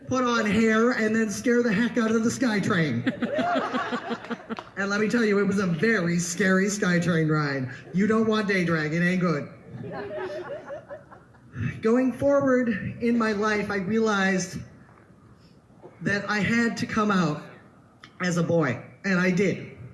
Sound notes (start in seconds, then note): 1.8 audience laughs; 9.7 more laughter